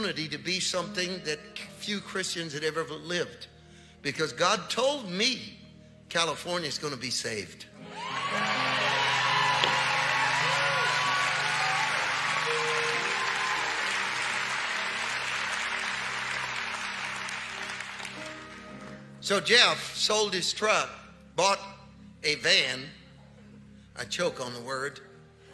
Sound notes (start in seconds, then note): 7.9 congregation applauding